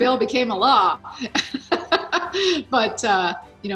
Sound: laughs

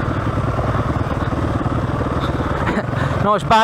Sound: laughs

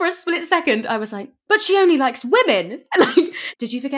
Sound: laughing

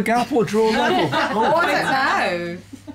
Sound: laughter

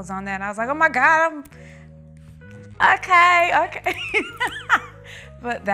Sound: laughing

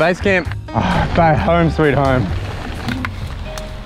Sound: sighs

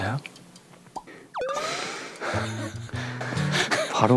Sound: failed not to laugh

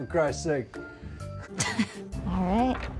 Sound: laughs

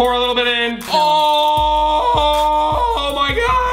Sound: screaming

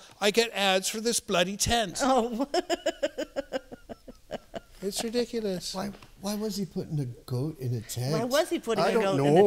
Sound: laughter

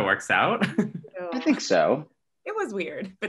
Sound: laughs

